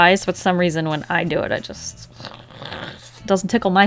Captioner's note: growls in frustration